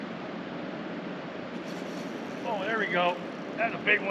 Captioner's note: rod whipping